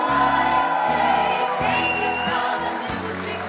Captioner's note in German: Jubel, Applaus